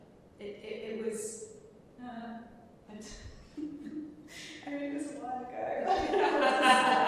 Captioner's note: both laughing